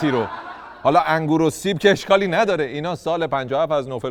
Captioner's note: laughter